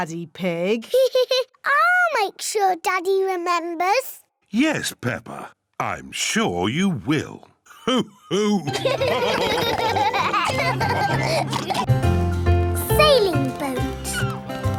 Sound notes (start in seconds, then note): 0.8 laughs; 7.8 all laugh